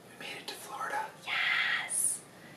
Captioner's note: whispers